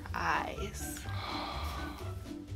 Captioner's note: gasp